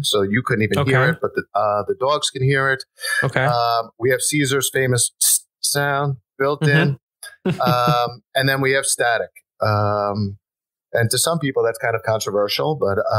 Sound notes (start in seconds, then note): 6.3 hisses